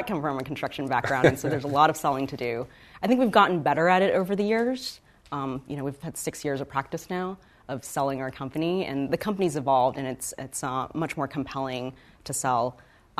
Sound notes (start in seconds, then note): 0.9 laughs